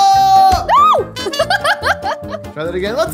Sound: laughing

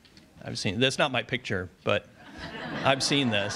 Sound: audience laughs

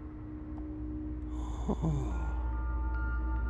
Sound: breathing; ominous music

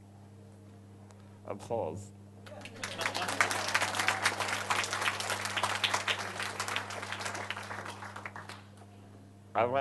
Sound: crowd laughs and applauds

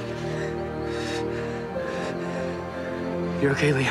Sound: Liam breaths sharply

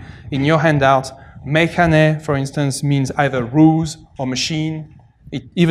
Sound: non-english

